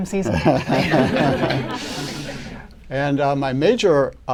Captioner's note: laughter